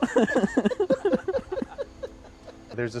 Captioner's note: laughter